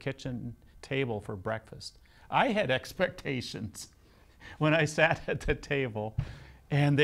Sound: laughs

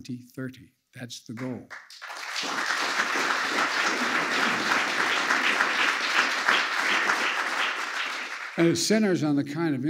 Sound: applause

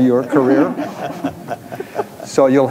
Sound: audience laughs

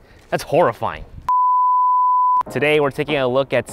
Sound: beep

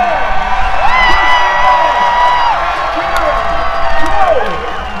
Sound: yelling

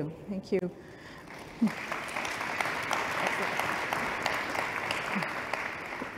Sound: applause

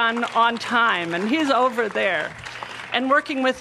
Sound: applause

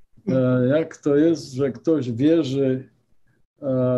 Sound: speaking polish

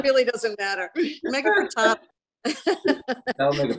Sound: laughs

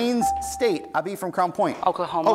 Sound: buzzer beeps

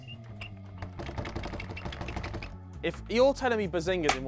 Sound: door clanging

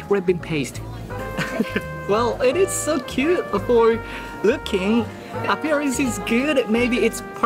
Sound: chuckles

